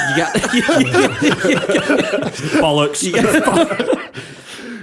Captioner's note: laughter